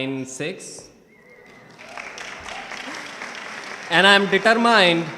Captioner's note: audience clapping